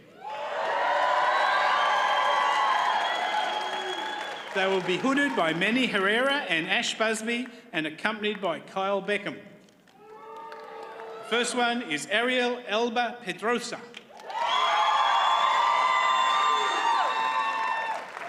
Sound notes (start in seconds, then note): 0.1 audience cheers and applauds; 9.9 audience cheers; 14.0 audience cheers and applauds